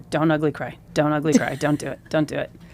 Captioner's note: laughs